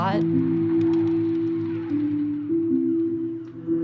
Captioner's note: game sounds